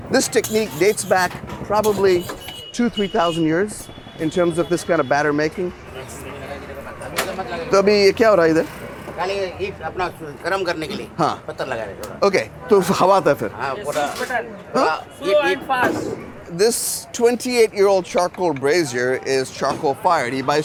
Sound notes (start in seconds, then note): 7.2 speaking in Hindi; 13.0 chef speaking in Hindi